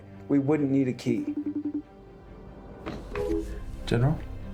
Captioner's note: cell phone ringing